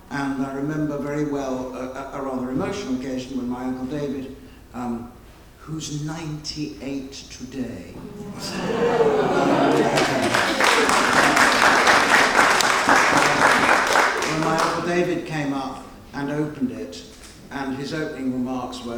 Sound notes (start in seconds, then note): 8.0 audience applauding